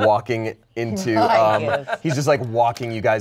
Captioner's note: laughs